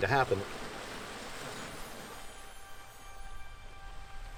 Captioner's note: ocean waves